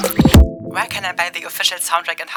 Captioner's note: electronic beeping; electronic Voice